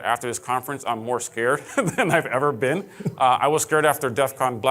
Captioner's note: laughing